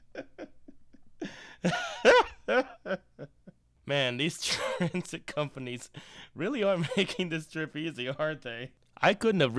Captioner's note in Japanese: 笑ってる